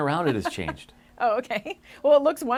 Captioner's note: laughing